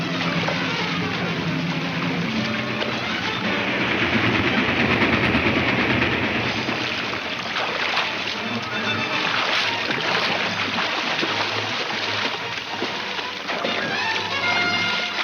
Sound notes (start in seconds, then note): 3.1 train clatters